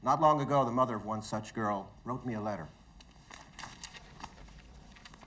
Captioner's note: none